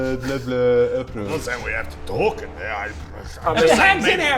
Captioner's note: pfft